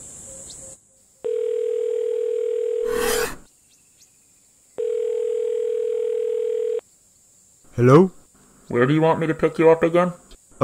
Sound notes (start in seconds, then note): 1.3 phone rings; 4.8 phone rings; 8.6 over phone